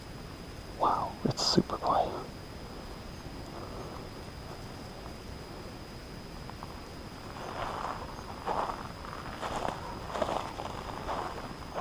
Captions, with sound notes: Wow, it's super quiet. (birds chirping) (footsteps thudding)